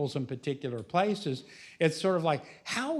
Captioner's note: none